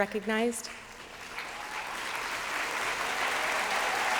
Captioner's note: applause